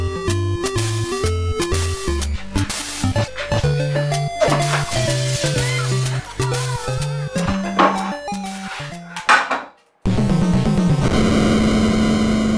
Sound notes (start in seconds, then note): 4.4 glass breaks; 5.4 woman screaming in the background; 10.1 dramatic music